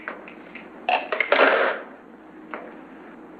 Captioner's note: phone clatters